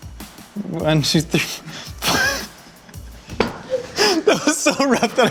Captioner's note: laughs